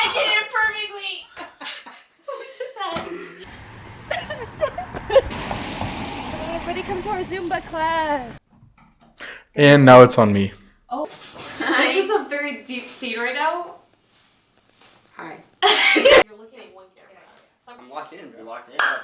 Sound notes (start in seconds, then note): 4.1 sobs; 15.7 laughs